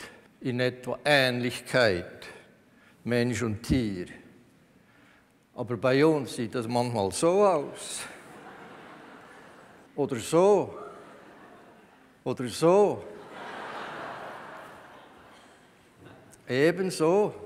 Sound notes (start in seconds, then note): 8.2 laughter from the audience; 13.1 laughter from the audience